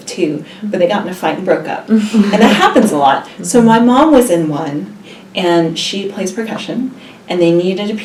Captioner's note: laugh